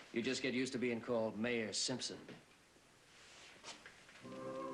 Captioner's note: none